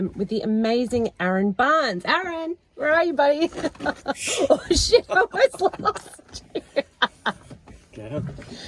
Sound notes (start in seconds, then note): 3.4 laughs